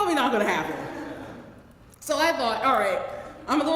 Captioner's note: laugh